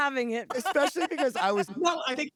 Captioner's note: laughs